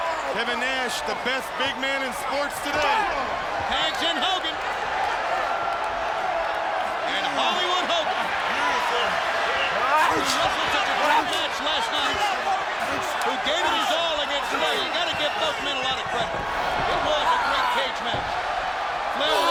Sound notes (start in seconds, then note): 5.2 crowd cheering